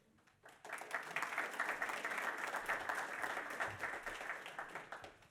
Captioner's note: audience applauds